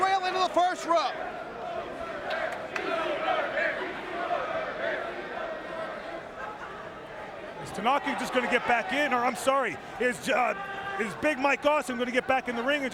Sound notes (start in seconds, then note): 1.0 crowd chanting